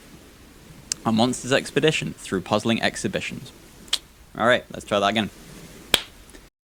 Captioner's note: claps